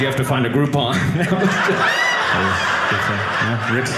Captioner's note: audience laughing